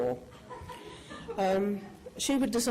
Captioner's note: laughing